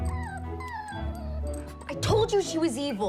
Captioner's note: whines